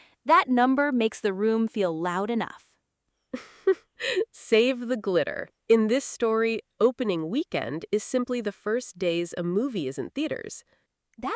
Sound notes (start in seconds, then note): 3.3 chuckles